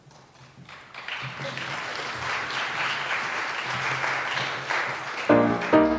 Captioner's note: applause